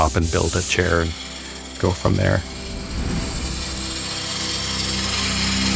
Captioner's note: lathe whirring